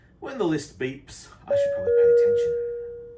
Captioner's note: bell ringing